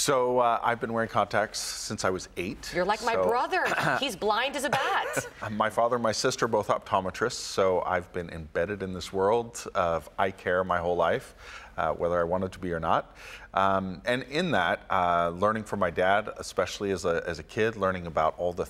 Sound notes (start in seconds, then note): 4.6 laughs